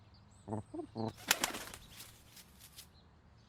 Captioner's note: ben chirps; wings beating